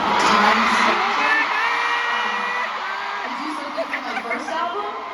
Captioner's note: more overwhelmed laughter